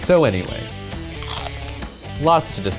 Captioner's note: crunch